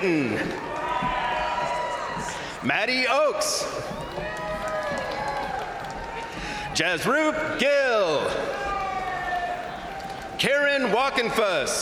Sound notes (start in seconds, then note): 0.0 crowd applauding; 0.2 crowd cheering; 3.4 crowd applauding; 3.4 crowd cheering; 8.1 crowd cheering; 11.6 crowd applauding; 11.6 crowd cheering